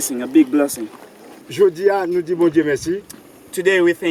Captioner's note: speaking in foreign language